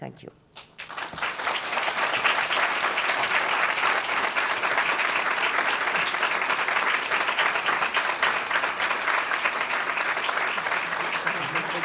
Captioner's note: applause